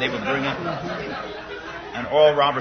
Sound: laughter

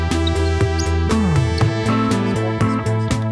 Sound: squeaking screws

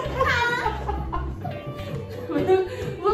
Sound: burst out laughing "ha" part

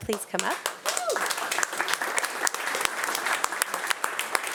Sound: audience applauding

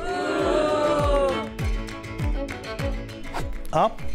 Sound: audience boos

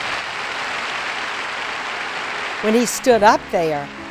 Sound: crowd applauds

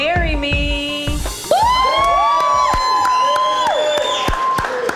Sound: audience cheers

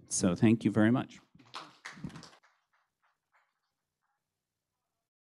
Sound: applause

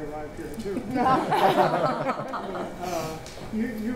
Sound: audience laughing

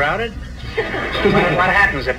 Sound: audience laughs

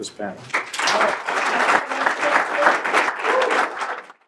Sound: applause

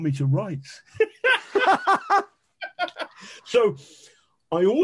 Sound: men laughing

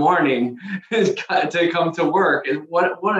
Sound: chuckling

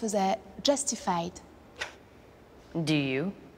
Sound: scoffs

